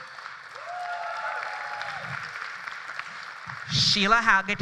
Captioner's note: applause